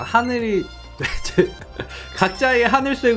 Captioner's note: laughing